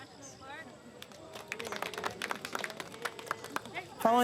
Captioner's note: clapping